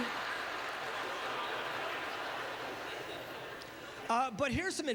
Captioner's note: audience laughter